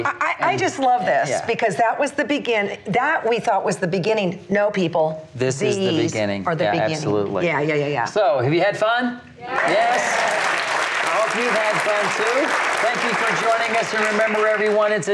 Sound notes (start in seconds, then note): 9.5 applause